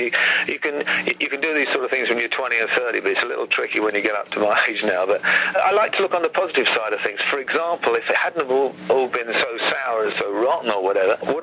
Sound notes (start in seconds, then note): none